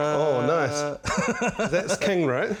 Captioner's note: laughs